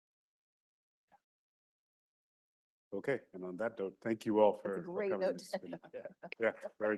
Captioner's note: laughs